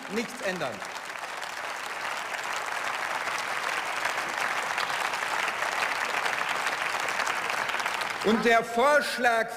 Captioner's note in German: Beifall